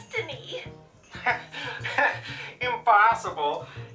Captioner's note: laughs